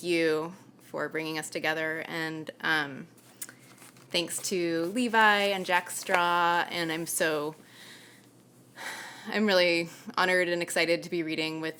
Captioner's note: sighs